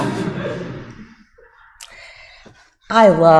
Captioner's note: audience laughs